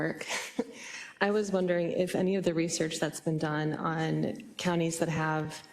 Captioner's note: laugh